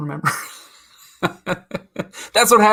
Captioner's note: laughs